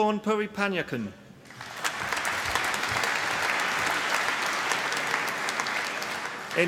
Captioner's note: applause